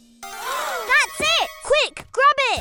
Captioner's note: everyone gasps